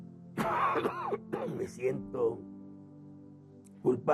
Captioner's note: coughs